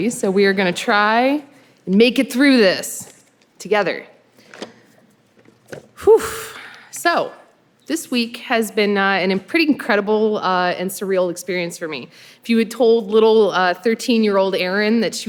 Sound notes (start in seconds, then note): none